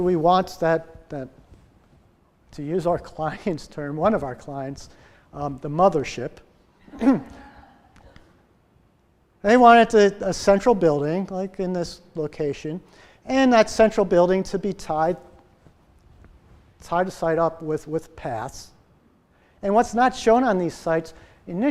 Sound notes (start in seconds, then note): 6.8 laughter